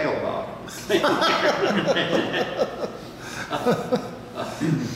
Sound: laughing

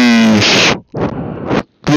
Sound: blows on hot food

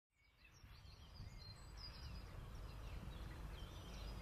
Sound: birds chirping

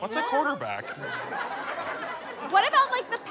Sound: audience laughter

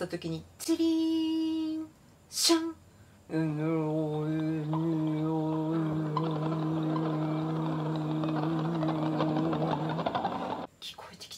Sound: bells and chanting

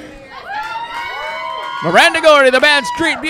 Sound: crowd cheering

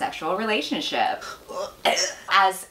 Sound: vomiting sound

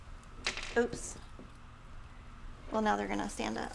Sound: metal rattling

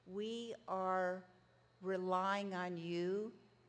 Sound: none

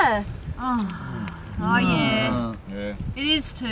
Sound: all sigh

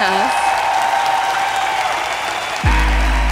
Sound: audience cheers

